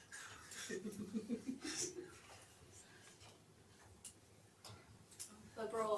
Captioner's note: laughs